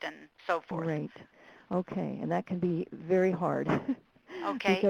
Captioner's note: chuckles